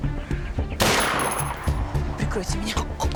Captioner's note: gunshot